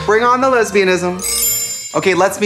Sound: chimes

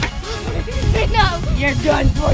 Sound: laughing

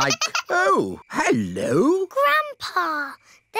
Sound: giggling

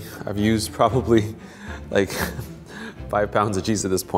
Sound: laughs

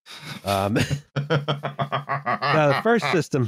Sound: laughs

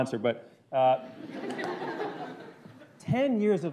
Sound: laughter

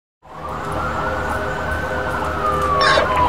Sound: sirens wailing

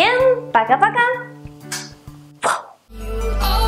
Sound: smack

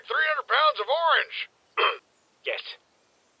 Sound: Caboose clears throat

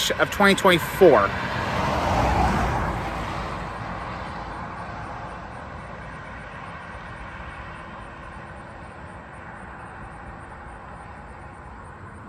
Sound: Traffic on Paulding Road

